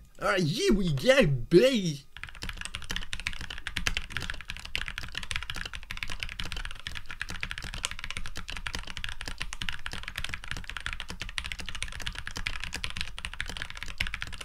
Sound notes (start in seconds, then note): 2.1 keyboard sounds